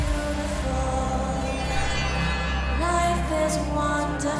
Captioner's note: bells ringing